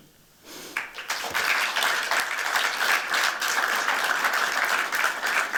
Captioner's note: applause